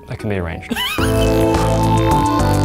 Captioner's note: laughing; upbeat music